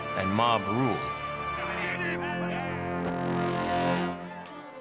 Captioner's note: men shouting